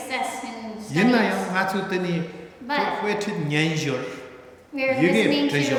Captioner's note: speaking tibetan